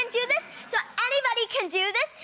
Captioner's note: audience laughing